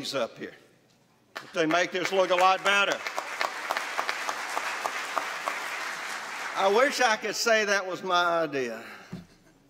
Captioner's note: applause